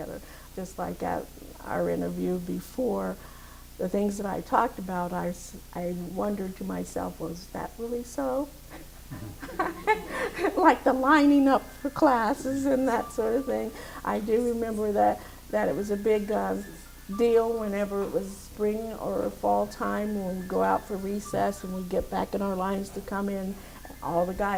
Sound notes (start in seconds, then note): 8.7 laughs